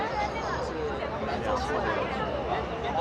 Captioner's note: people chattering